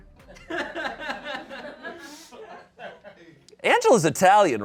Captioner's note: audience laughing